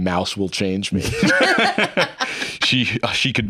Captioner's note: laugh